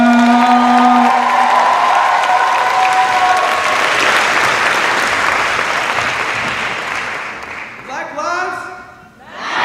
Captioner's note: cheers and applause